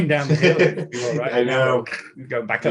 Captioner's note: chuckling